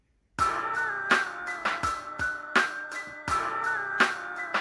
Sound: cellphone rings

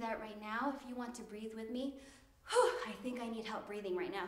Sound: exhales

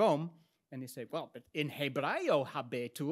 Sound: speaks in Latin

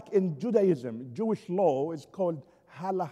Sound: foreign language spoken

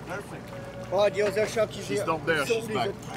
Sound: divers speaking French

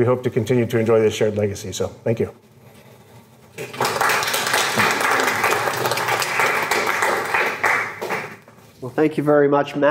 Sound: applause

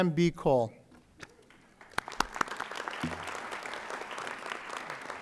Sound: audience applauding

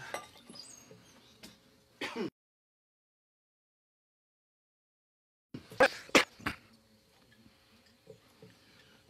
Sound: no sound

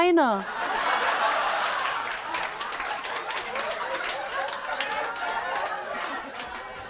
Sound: laughter sound

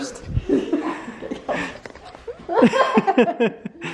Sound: laughing

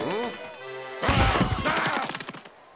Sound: yells angrily

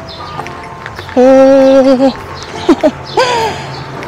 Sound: laughs

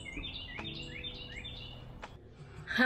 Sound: Carolina Wren calling

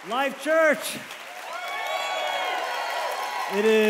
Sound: congregation cheers

